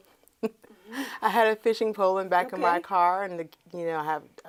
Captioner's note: laughs